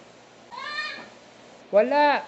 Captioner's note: child throwing a tantrum